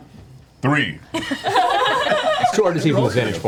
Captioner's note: all laugh